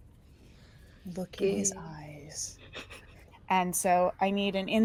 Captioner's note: laughs